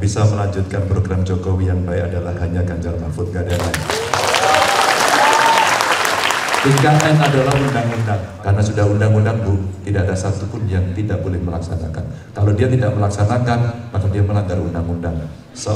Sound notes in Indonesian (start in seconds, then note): 3.5 tepuk tangan